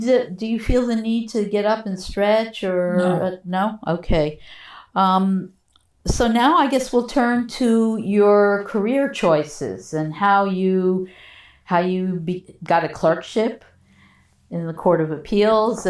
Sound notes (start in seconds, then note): 3.2 drinking